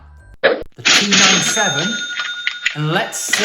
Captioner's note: cash register chimes